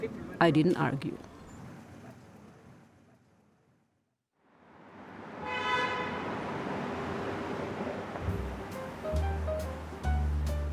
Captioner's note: voice-over